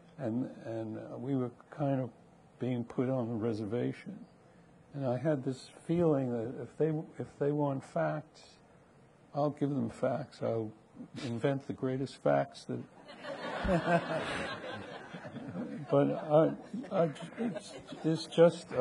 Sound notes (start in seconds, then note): 13.0 people laughing